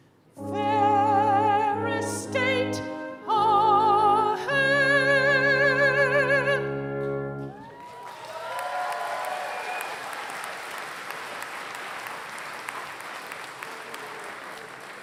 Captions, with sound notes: Ferris State, all hail! [APPLAUSE]